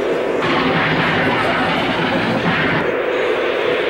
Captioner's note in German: Schießerei